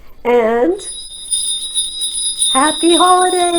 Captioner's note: jingle bells ring